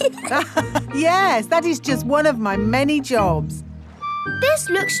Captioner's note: laughs